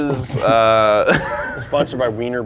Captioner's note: snickers